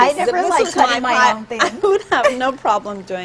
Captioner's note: laughter